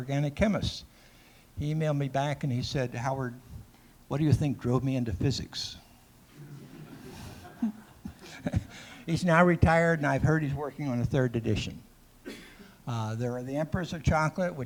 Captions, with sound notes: "for those of us that are organic chemists." He emailed me back and he said, "Howard, what do you think drove me into physics?" (laughter) He's now retired and I heard he's working on a 3rd edition. There's The Emperors of Chocolate,